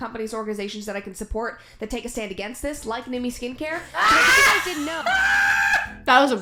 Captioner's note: scream laughing